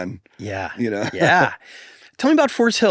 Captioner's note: laughs